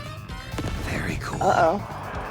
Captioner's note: whispers